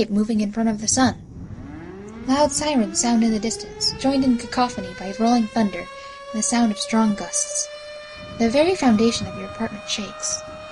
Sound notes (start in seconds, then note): 5.6 sirens wails in long calls. Thunder crackling as wind builds up; 9.5 faint screaming slowly builds up